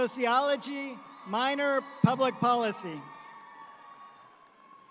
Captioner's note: audience cheering